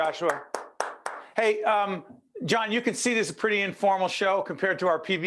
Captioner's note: applause